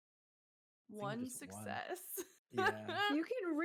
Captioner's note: chuckles